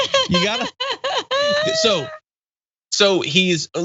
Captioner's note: laugh